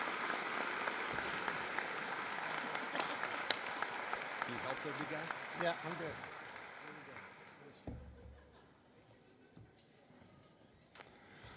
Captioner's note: applause